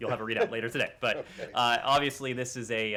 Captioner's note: laughter